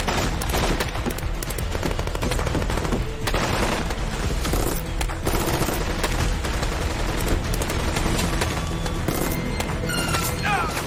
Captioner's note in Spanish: Disparos